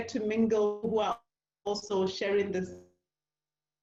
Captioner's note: distortion